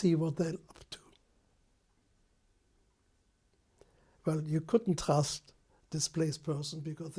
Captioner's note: pauses for 3 seconds